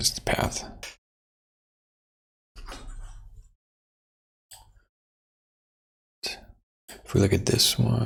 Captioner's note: blank Audio